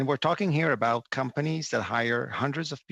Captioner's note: speaking French